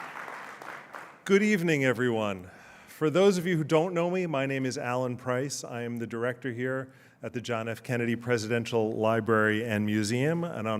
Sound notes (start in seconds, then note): 0.0 applause